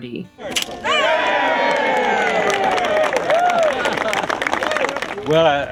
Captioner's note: crowd cheering and clapping